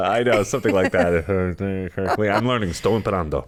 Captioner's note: mumbles; speaks Italian